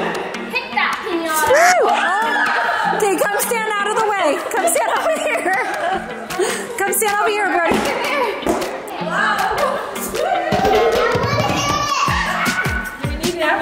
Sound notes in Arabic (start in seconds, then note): 6.4 يضحك; 11.0 موسيقى مبهجة